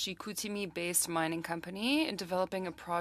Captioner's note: speaking french